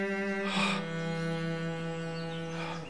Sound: heavy breathing

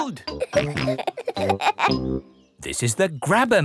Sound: peppa and george laughing

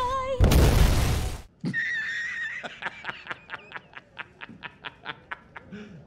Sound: laughing Intensely

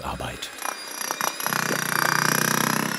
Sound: humming, whirring

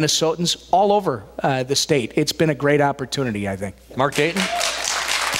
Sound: applause, cheers

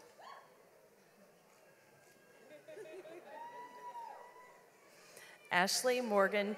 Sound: audience cheers; people laugh

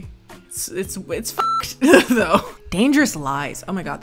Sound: beep

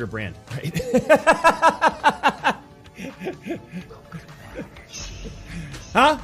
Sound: laugher

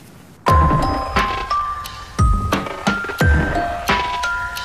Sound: clap

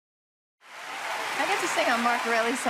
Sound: crowd cheering

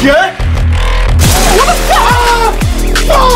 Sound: he yells

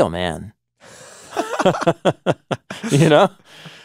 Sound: both laughing

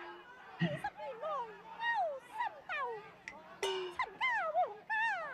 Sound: speaking foreign language

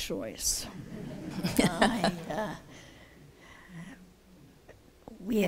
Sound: laughter

